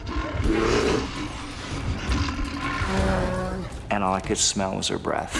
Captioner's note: bear growling